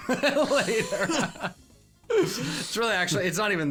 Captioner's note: laughing